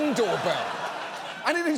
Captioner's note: audience laughs